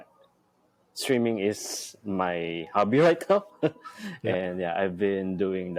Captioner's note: laughs